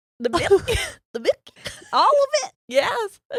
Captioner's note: giggles